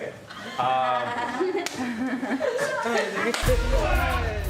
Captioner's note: laughter